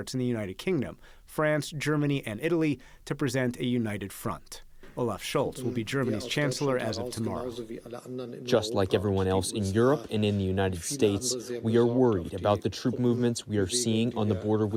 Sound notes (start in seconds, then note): 8.5 through translator